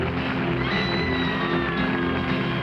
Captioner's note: audience cheering and applauding; screaming